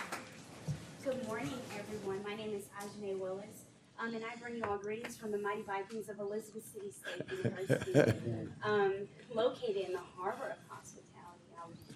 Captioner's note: applause